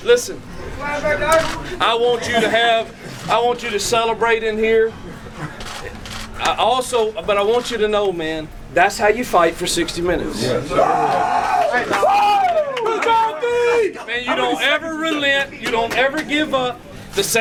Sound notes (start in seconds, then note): 10.6 cheering